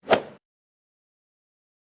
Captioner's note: swoosh